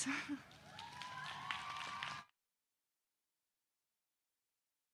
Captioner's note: audience applause